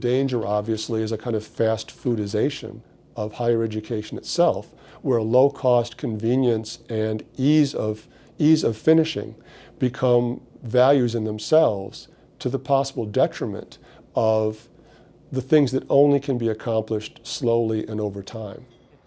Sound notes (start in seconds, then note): none